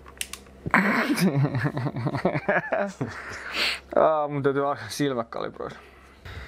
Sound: laughing

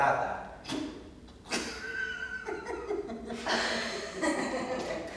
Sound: laughs

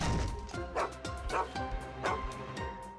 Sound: barking

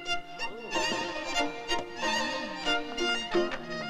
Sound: guests murmur

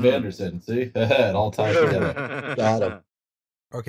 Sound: laughter

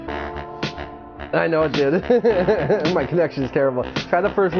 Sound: laughs

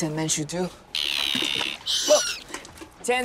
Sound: seagull chatters

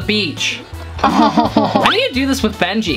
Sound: laughing

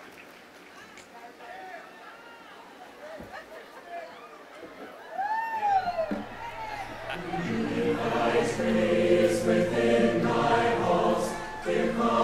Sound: throws frisbee

